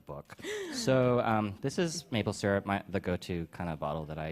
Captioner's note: gasps